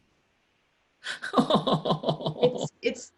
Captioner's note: laughs